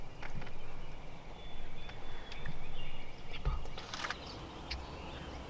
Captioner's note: birds chirping